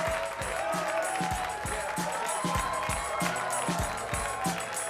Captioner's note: energetic music; audience applauding